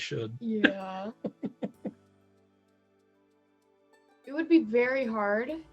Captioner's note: chuckling